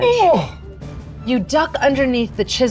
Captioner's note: groans